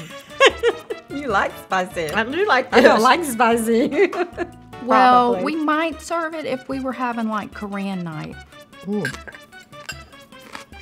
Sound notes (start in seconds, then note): 0.0 woman in blue laughs; 3.7 laughs; 10.6 chews loudly